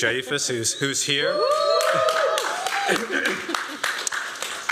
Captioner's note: cheering